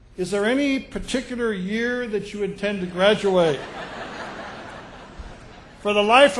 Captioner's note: laughter